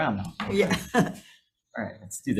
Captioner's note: chuckles